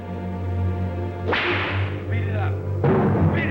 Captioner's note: whip cracks